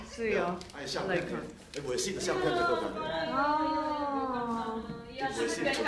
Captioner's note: speaking foreign language